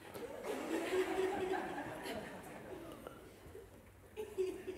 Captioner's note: laughter